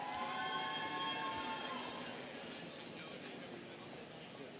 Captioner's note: students cheering